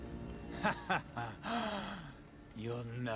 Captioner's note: laughs